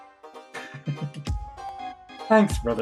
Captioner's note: chuckles